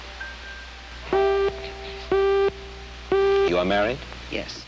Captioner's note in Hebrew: צפצוף